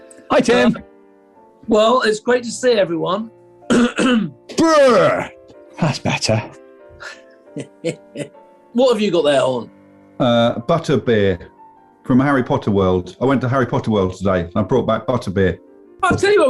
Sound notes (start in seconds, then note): 3.7 clears throat; 7.5 chuckling